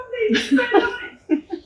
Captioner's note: laughter